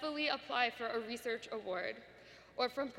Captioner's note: none